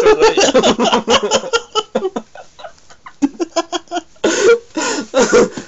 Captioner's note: continues to laugh hard